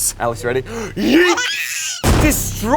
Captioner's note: screams